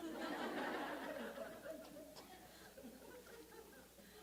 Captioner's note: audience laughs